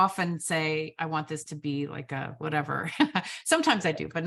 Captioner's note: laughs